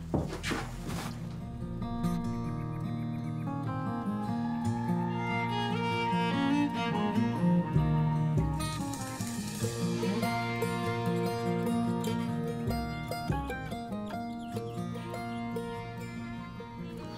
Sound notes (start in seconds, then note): 1.2 birds chirping; 2.3 somber Western music